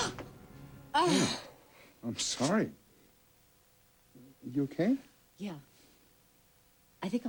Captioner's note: gasps